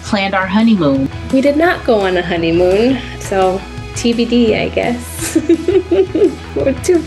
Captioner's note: laughing